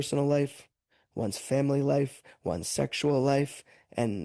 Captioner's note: speaking French